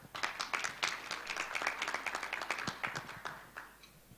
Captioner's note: applause